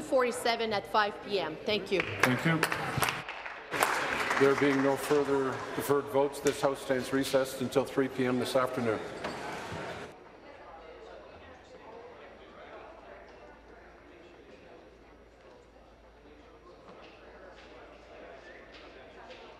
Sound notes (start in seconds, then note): 6.4 applause